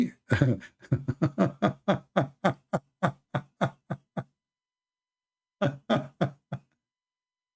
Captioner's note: Ketawa